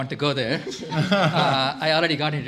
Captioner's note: laughter